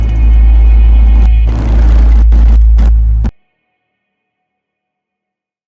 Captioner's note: TV static crackles